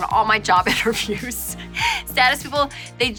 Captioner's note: laughing